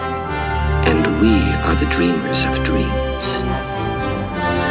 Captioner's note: triumphant music; voiceover of man speaking in english; triumphant music